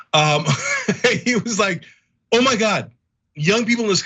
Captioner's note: laugh